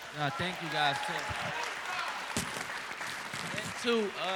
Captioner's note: applause